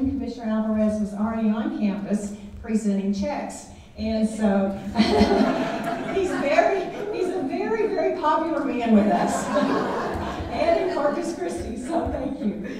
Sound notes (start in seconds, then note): 4.7 laughing; 4.8 audience laughing